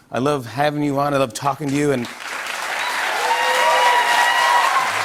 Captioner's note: cheers and applause